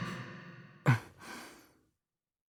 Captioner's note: silence